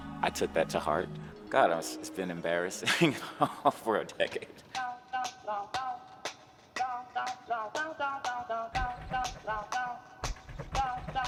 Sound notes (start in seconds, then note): 4.7 laughs